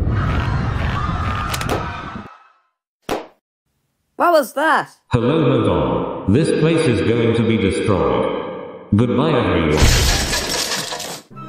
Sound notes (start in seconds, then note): 0.0 crowd Screaming; 5.0 intercom